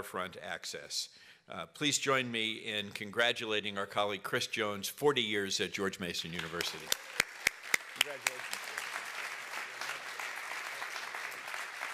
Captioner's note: applause